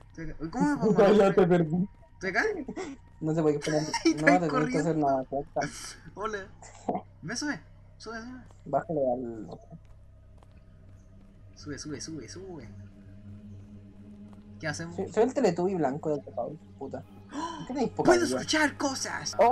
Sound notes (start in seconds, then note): 3.6 weird chuckle; 17.3 gasp